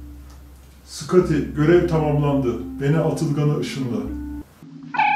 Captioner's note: star trek space-ship